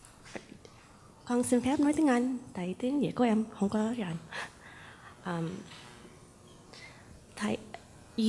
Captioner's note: Greets Thay in Vietnamese